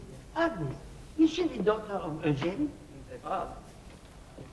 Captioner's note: speaking french